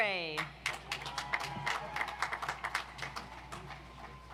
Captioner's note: audience applauds